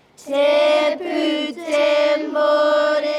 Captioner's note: children reciting